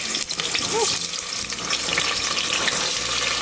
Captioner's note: pot sizzling